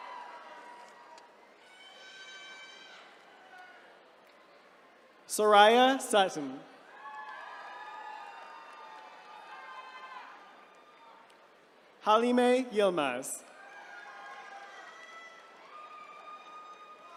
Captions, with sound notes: - Soraya Sutton. (attendees cheering) Halime Yilmaz. (attendees cheering)